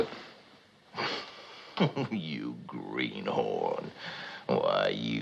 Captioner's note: chuckles